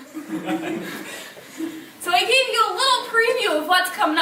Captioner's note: chucklling